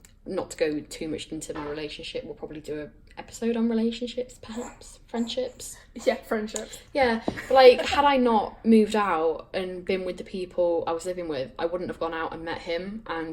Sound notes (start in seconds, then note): 4.4 uneasy noises